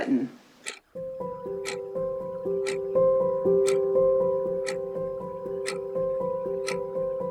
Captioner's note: ticking clock